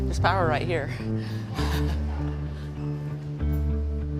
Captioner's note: laughs; light guitar music